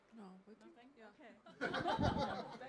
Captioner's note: laughter